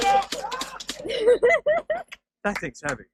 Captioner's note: giggles